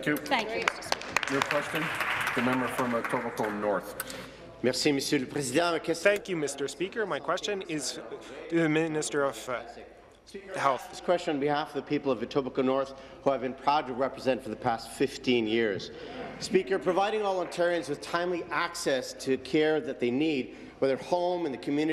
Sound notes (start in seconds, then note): 8.0 speaking in French